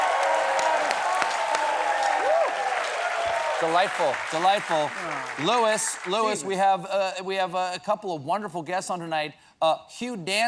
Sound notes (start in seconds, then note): 3.3 cheers and applause